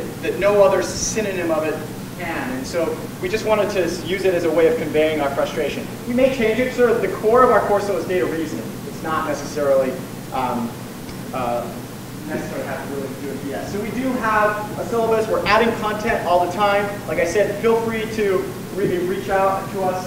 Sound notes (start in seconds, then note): none